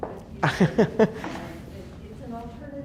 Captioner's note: laughs